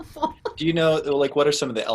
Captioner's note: laughs